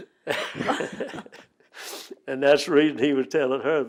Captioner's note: laughter